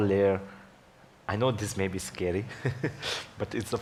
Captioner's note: laughs